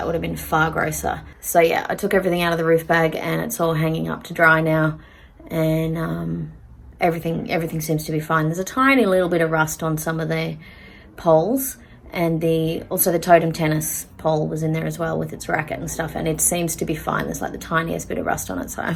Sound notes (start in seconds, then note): none